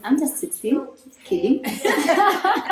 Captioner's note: laughs